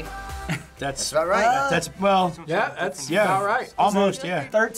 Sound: beatboxes

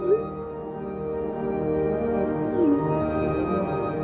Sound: messages blipping

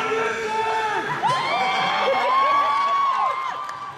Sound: cheering

